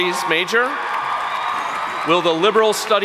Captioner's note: audience cheering and applauding